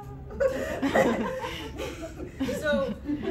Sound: laughter

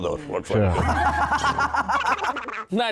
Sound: hahahaha

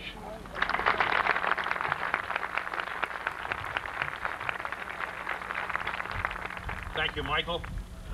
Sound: applause

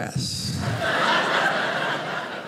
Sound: audience laughing

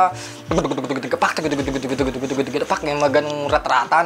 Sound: mimicking double pedal beat pattern

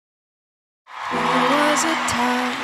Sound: audience cheering

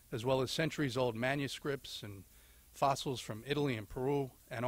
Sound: none

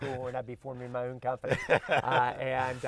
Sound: both laugh

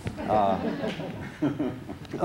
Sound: laughter

